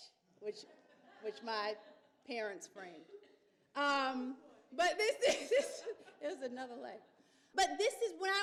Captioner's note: laughs